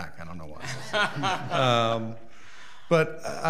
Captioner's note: people laugh